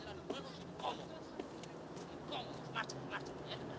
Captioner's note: argument in spanish